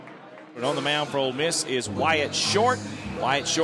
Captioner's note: voiceover